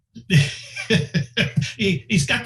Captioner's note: laughing